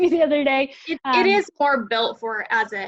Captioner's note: laughing